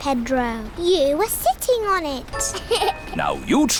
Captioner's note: laughs